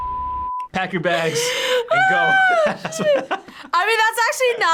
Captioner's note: laughs